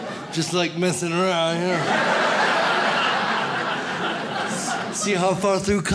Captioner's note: audience laughs